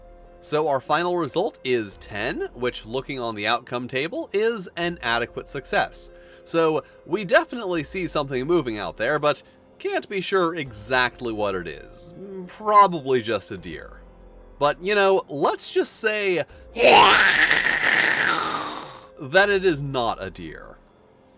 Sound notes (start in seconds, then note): 16.7 loud growl